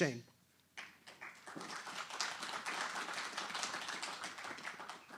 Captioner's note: applause